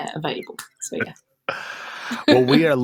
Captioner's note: laughter